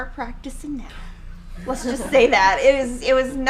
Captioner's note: laughing